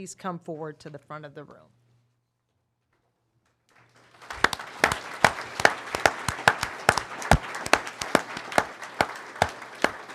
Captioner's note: applause